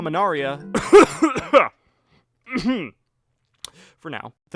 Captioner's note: violent coughing